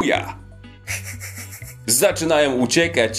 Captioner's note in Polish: Śmiech Indominus